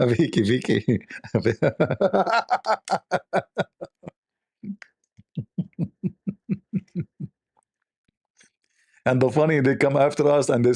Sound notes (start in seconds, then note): 5.4 Ketawa